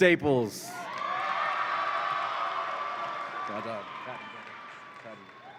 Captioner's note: audience applauds and cheers